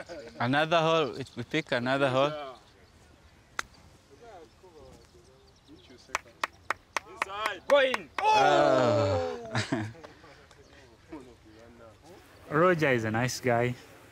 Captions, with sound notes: Another hole-- we'll pick another hole. [chatter] Go in! Ooh! Oh. [chuckles] Roger is a nice guy.